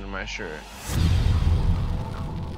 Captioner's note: fire whooshing